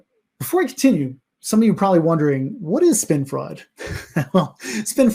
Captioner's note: laughs